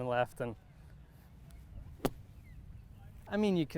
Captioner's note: golf club thwacking